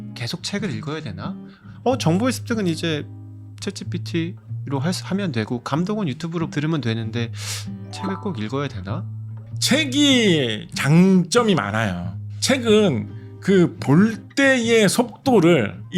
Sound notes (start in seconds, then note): 7.9 ding sound effect